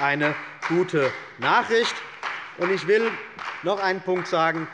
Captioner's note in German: Beifall bei der CDU und dem BÜNDNIS 90/DIE GRÜNEN